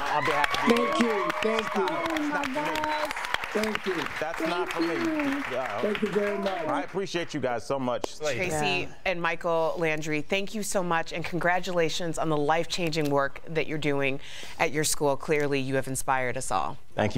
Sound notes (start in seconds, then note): 6.6 cheering